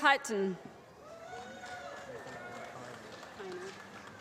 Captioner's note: applause